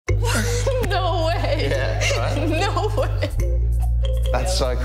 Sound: laughs

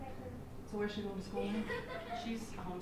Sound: laughter

